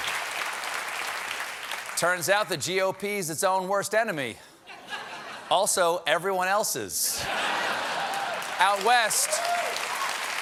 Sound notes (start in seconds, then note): 0.0 applause; 7.7 cheers and applause